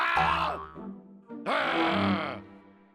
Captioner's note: growling